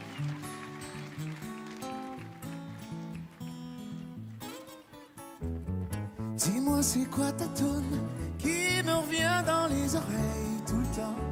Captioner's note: applause